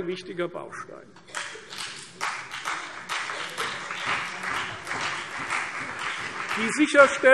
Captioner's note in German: Beifall CDU und vereinzelt BÜNDNIS 90/DIE GRÜNEN